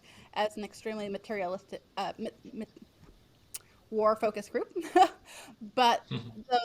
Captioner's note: laughs